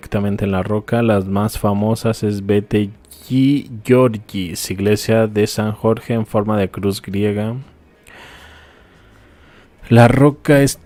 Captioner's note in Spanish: suspiro